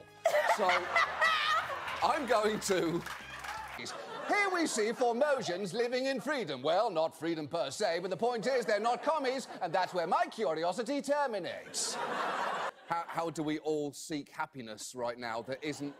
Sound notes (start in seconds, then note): 0.2 audience & laughter; 4.5 colonizer accent; 11.6 audience laughter